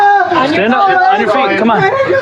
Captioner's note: chatttterer